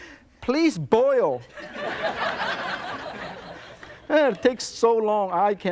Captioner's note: audience laughs